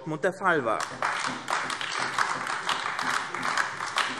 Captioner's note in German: Beifall AfD